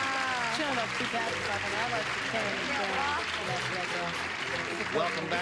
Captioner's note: clapping